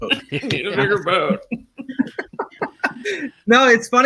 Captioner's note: laughing